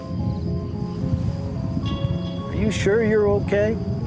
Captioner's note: thunder